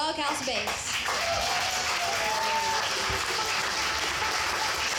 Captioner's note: audience cheering